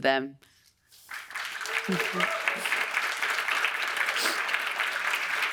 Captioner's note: audience applauds